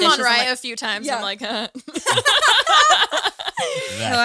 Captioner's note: laughs